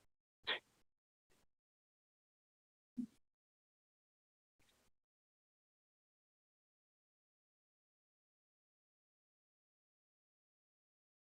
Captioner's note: no sound